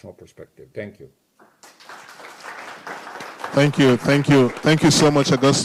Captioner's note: applause